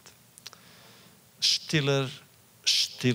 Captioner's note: Yiddish